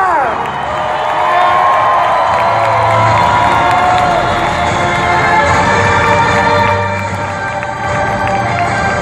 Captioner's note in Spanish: aplausos